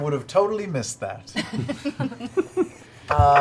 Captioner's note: laughter